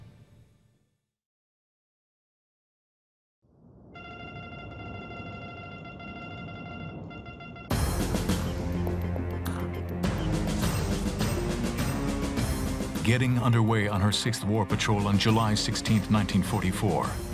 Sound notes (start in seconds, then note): 4.0 beeping